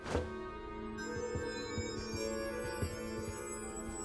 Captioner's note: orb shimmering